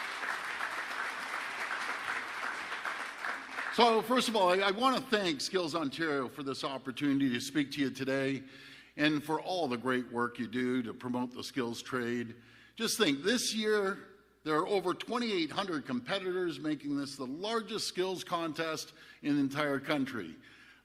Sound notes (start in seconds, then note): 4.3 applause